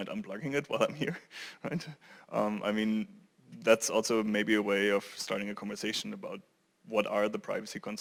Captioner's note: laugh